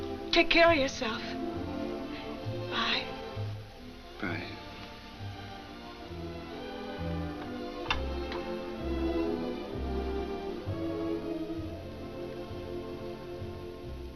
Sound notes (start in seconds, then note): 7.6 line clicks